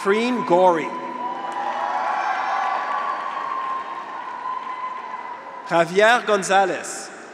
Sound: graduates cheer; audience applauds

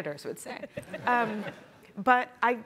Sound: group laughing

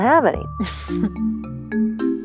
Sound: laughs

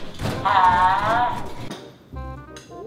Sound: crash; shouts; soft music

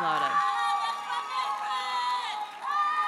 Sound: audience cheers and applauds

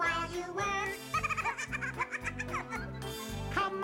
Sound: both laugh

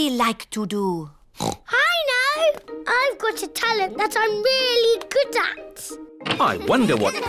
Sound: oinks

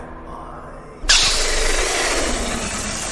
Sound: sizzling

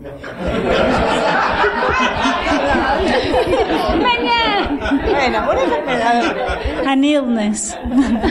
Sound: laughter

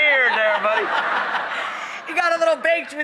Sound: laughter

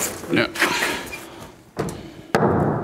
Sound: clanging; groaning

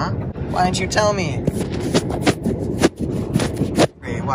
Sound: camera wipping noises

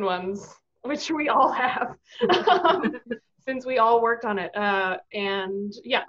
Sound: laughing

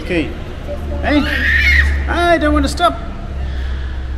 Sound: shouting

